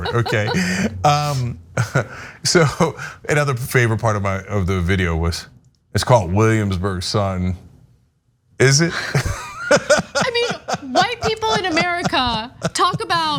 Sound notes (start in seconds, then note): 0.0 laugh; 8.9 laugh